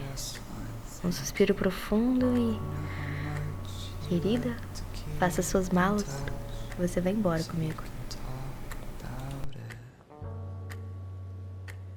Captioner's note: sighing, as if in relief